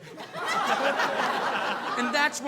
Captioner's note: audience laughing